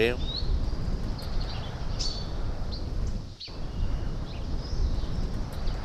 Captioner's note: birds singing